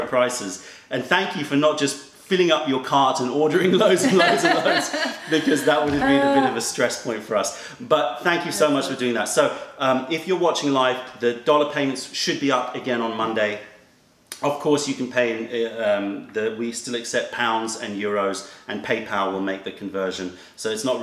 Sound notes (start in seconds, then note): 3.6 laughter